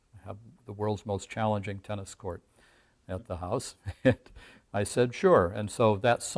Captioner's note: laughs